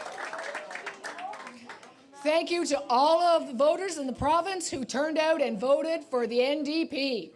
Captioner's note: cheers and Applause